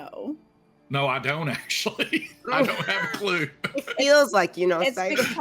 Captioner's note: laughing